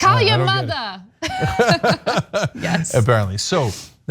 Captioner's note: laugh